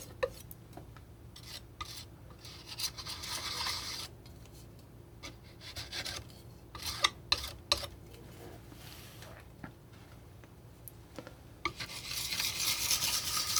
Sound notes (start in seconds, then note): 2.7 scratching